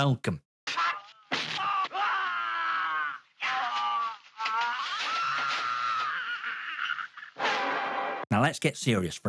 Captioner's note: screams